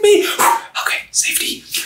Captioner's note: blowing rapidly